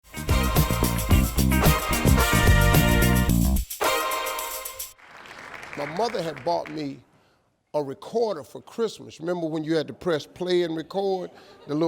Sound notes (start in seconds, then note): 0.0 upbeat funky music; 4.9 audience applauds